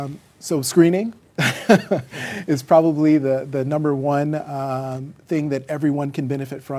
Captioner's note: laughs